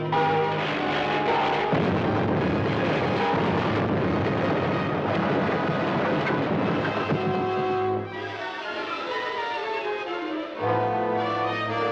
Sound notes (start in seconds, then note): 0.5 loud explosions